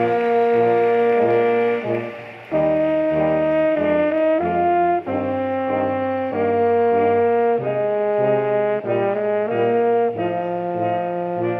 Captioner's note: applause